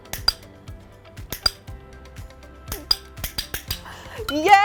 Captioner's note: clicker; clicker, clicker